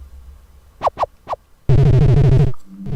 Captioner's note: pulsating sound; ominous music